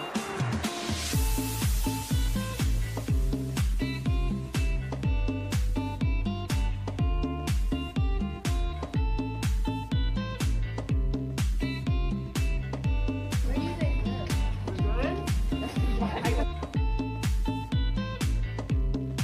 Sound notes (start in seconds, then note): 13.5 crowd chattering; 16.5 bright music